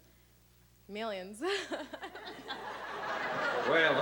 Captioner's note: laughs